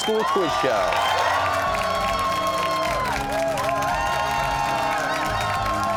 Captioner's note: cheers and applause